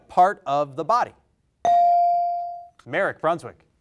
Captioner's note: bell rings